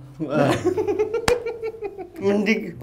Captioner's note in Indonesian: ketawa